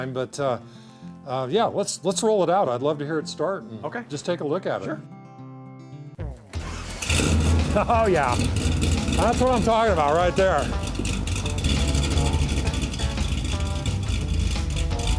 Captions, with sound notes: but yeah, let's roll it out, I'd love to hear it start. - Okay. - Just take a look at it. - Sure. (car engine starts) - Oh yeah. That's what I'm talking about right there. (car engine roaring)